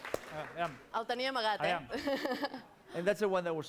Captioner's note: non-english speech